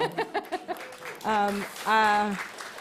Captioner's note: applause